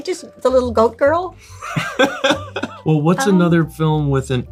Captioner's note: Lewis laughing